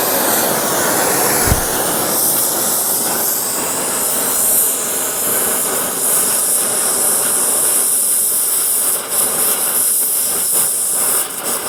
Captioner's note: sounds of torch